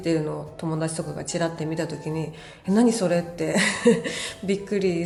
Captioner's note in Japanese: 笑い